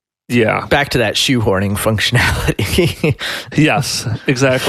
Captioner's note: laughs